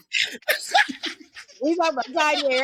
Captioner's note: laughter